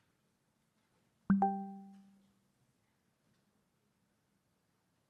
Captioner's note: computer chimes